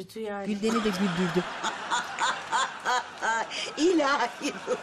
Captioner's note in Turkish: Gülme sesi